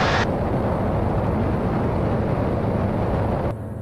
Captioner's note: plane engine roaring